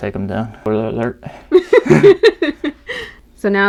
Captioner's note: laugh